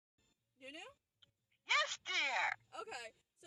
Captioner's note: on phone